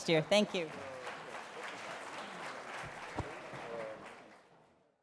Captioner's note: applause